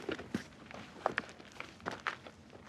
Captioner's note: none